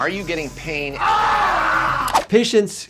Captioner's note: patient yells